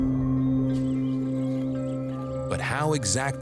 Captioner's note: birds chirping